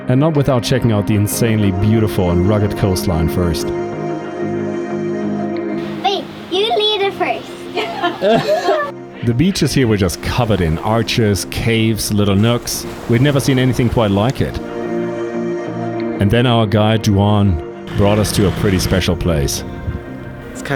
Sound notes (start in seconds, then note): 5.8 parents laugh